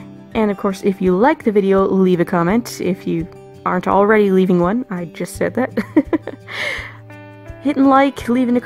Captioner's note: giggles